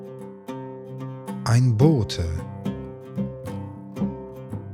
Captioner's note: german